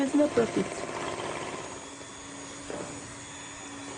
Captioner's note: mixer buzzing